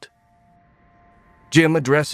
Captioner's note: steady chime